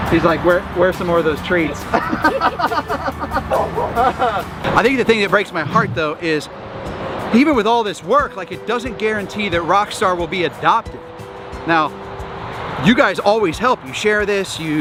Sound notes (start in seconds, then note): 1.8 laughs